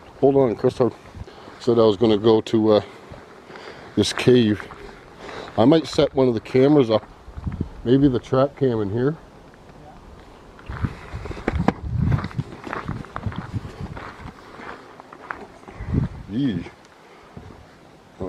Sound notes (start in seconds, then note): 10.6 wind